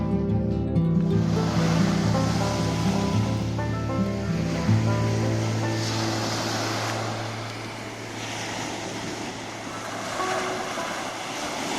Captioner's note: the sound of sea waves